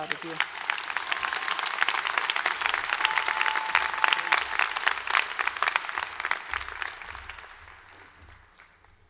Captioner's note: cheering and applause